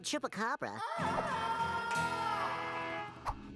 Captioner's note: wailing